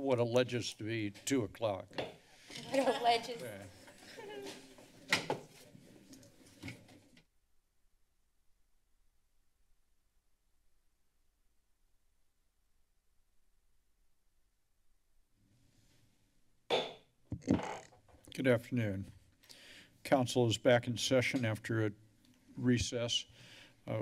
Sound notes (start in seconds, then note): 2.0 hits gavel; 3.9 laughter; 7.1 silence; 16.7 gavel thuds